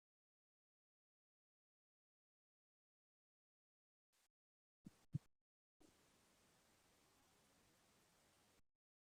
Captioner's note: silence